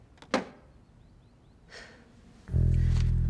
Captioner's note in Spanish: se burla